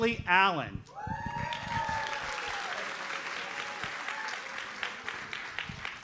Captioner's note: audience cheers and applauds